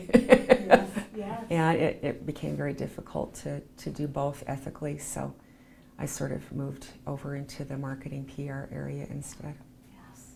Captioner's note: laughs